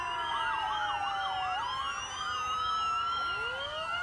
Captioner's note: sirens blaring